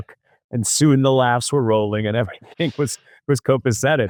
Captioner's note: laughs